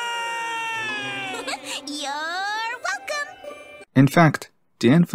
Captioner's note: giggles